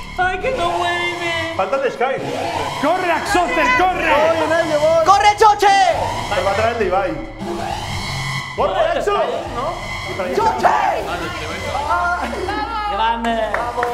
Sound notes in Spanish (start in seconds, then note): 7.7 Alarma